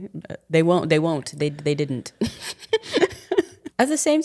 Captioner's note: chuckling